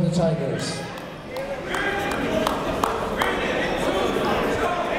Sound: chatter

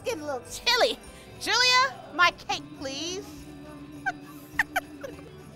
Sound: laughs

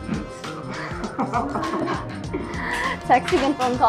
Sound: laughing

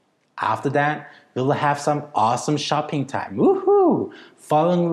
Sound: woohoo

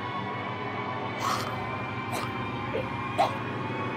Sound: choking

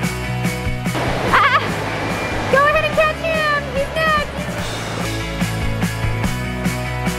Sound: laughing

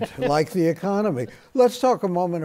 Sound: laughter

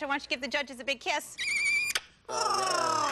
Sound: smooches

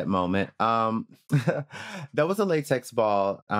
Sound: chuckles

